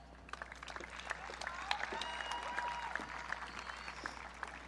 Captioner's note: audience clapping